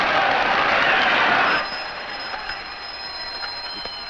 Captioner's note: clapping; phone ringing